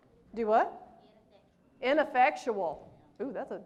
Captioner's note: crowd speaks